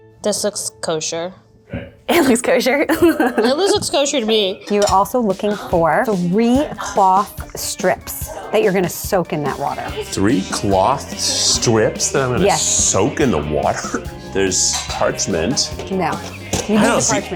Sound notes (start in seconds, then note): 1.8 laughing